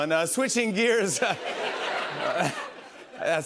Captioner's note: laughter